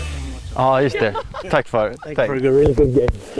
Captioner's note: family speaking in foreign language